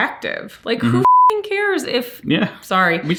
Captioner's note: beep